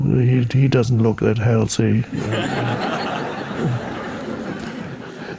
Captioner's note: audience laughing